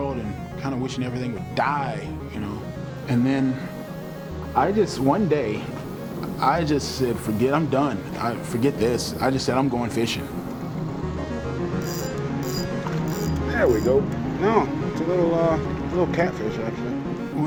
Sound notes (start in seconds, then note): 11.8 reel clicking